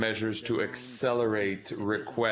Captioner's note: speaking in french